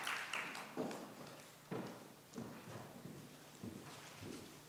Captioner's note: audience applauds; light footsteps